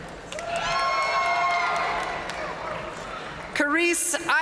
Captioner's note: audience cheering and applauding